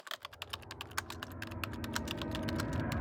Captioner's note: typing